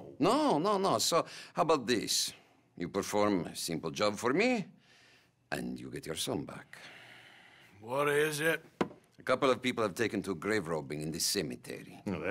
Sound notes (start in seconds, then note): 8.0 sighs